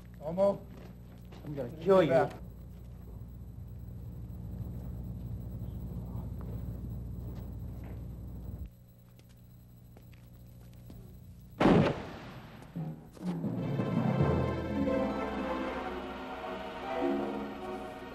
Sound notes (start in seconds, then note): 11.6 gunshot; 13.3 dramatic music